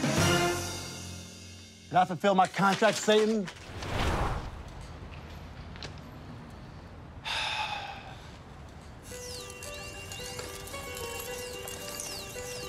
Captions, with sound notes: Did I fulfill my contract, Satan? (Cedric sighs) (thoughtful music)